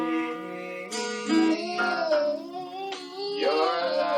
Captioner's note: child vocalizing